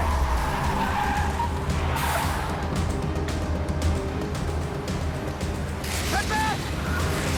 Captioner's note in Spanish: Chirrido de llantas